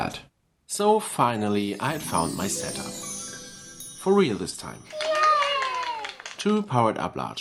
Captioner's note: kid's Applause from LEGO Powered-Up App